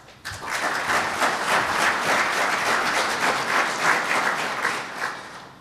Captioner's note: applause